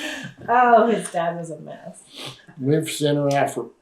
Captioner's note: laughter